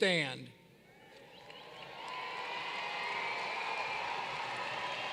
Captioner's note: cheering